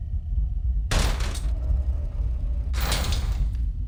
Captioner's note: mechanical door closes and reopens